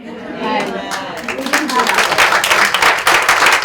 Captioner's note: audience cheers